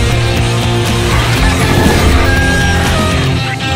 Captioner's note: rooster crowing